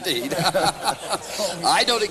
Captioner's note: laughter